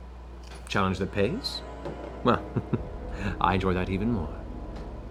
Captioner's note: chuckles